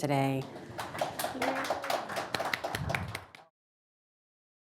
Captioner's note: audience applauding